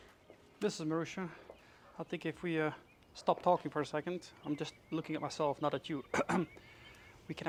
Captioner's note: cough